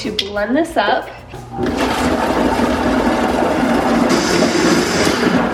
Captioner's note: blender roaring